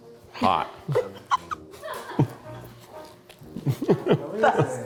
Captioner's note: crew chuckles